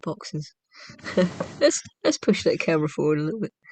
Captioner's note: laughter